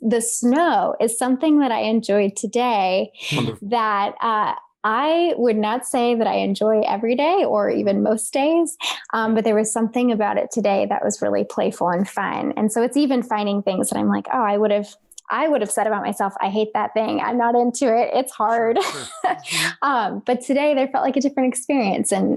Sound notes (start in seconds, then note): 18.5 chuckles